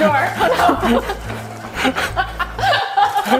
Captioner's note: both laughing